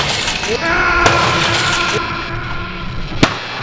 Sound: smash!!

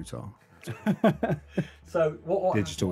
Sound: laughing

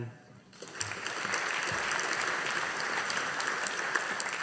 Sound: audience applauding

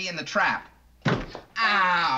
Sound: bang

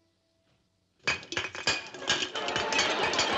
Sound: cans clanking; audience laughs

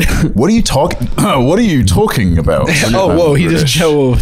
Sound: clears throat

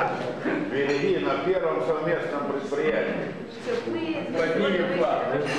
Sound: non-english speech

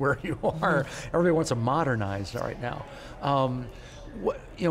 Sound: chuckles

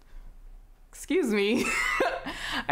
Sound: laughter

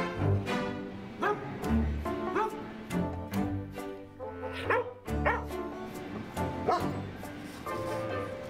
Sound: barking

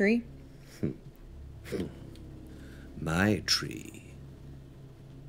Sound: chuckles

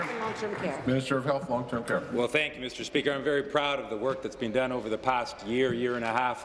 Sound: applause

